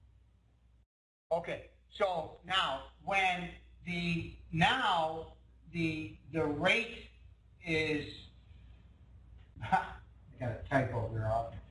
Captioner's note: laughing